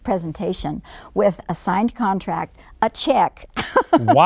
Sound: laughs

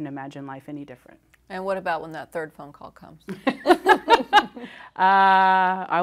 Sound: laughing

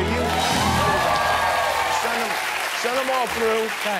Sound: cheering

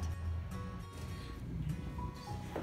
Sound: whispering

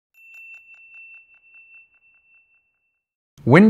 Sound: bell chime sounds

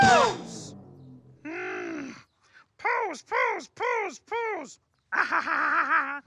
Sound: grumbling

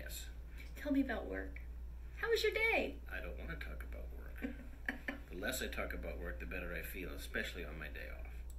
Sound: she giggles

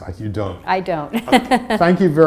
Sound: laugh

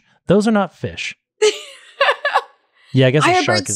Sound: laughs

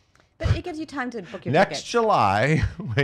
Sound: laughs

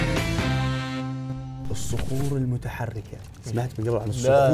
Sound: sliding rocks

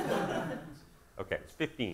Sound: audience laughing

